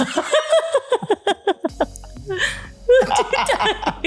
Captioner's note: both laughing